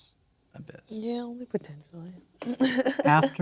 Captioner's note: laughing